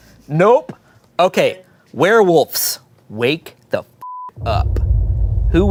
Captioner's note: beep